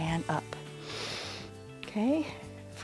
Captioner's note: inhales